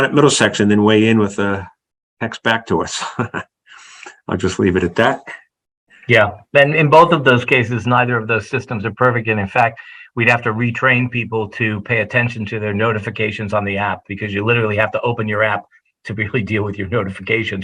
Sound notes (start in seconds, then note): 2.8 laugh